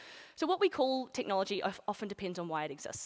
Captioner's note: none